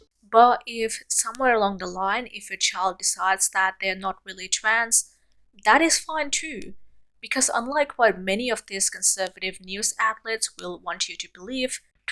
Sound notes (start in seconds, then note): none